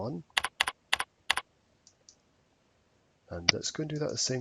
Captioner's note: mouse clicking